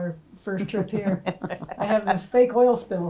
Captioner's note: ladies laughing